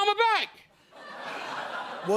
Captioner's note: laughter